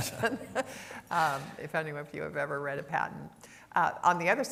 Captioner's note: laughter